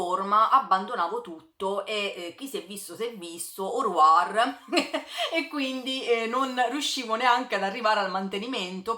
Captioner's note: laughter